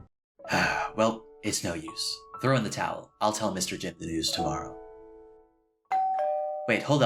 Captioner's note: sigh; doorbell rings